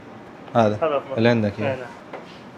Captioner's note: Arabic